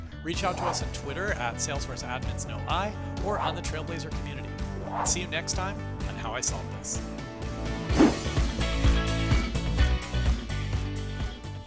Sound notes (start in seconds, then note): 7.8 air whooshing; 8.9 upbeat music